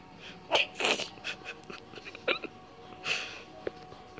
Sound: snickers

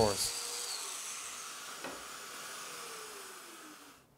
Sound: machine whirring

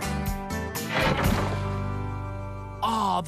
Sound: thud!; rocks Clattering

